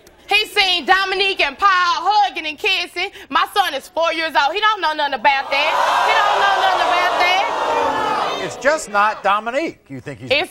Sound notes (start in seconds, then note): 5.4 audience groaning